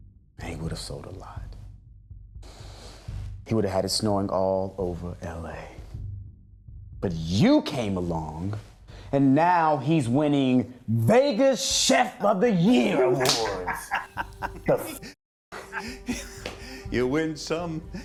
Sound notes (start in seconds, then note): 12.7 laughs; 12.8 chuckles